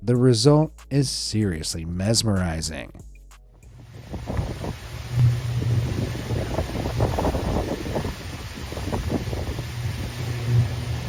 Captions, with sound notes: The result is seriously mesmerizing. (wind roaring) (electricity humming)